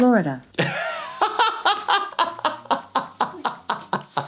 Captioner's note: laughing